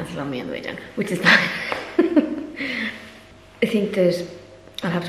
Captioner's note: laughs